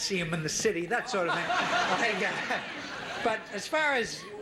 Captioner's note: audience laughing